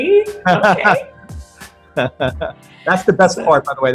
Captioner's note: laughs